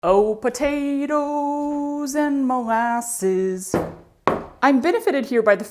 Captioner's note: singing loudly; thud, thud